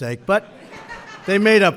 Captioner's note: laughter